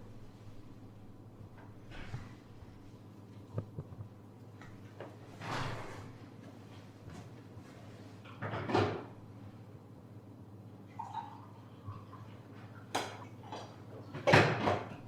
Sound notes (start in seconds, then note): 3.2 door opens; 5.1 door closes; 10.9 pouring coffee